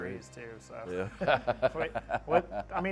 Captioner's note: laughs